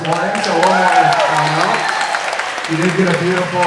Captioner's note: everyone applauding